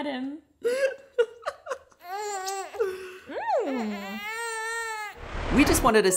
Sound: coos; laughs

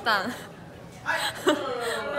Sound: pabebe laugh

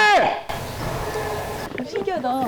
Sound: echo

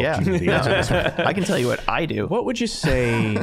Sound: all laughing

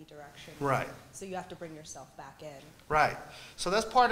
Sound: voiceover

